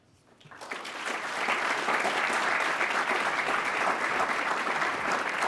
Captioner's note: audience applauding